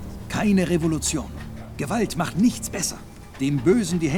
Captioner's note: speaking in German